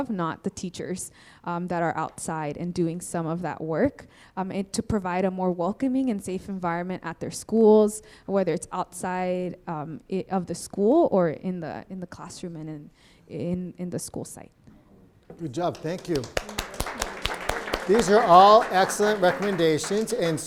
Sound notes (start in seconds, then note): 15.6 applause